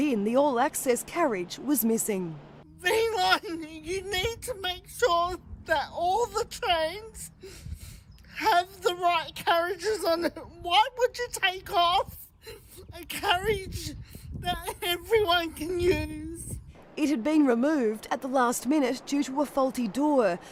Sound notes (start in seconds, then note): 3.6 tearfully, with dysarthria